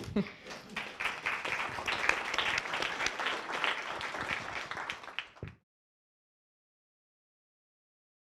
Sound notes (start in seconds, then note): 0.3 audience applauds